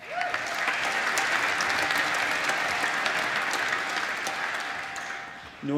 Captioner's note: applause